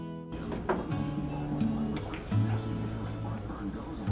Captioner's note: soft music; billiard balls clacking